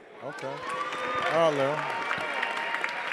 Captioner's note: attendees applauding